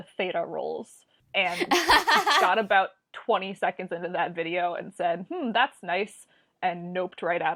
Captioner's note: laughs